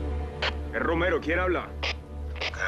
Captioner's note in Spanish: Voz en la radio